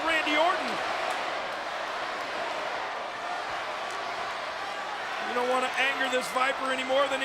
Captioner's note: applause